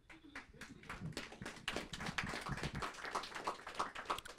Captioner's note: audience applauding